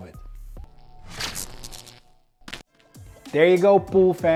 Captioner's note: electricity buzzing